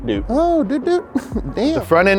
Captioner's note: giggles